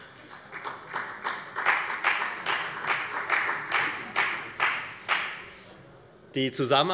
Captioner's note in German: Beifall bei der FDP und bei Abgeordneten der CDU